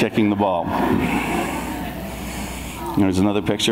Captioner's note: audience laughs